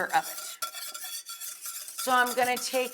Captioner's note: mixture whisking